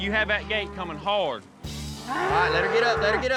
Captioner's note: mooing